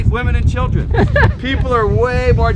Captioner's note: laughing